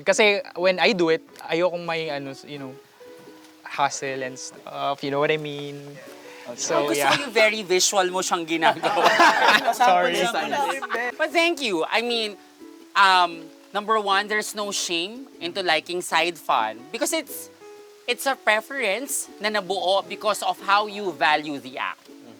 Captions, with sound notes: Because when I do it, I don’t want the hassle and stuff. -You know what I mean. -Yeah. I like how visual you did it. -[laughter] -Sorry! But thank you, I mean… Number one, there’s no shame in liking side fun. Because it’s a preference that existed because of how you value the act.